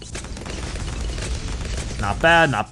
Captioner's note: weapons firing